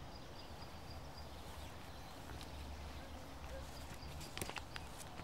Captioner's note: birds chirping sound